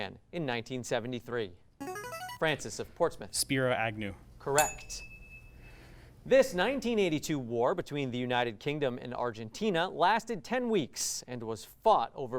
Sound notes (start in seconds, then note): 0.1 ring-in sound; 4.5 ding sound